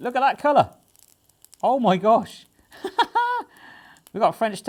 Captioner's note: laughs